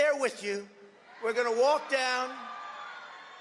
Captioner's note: cheering and applause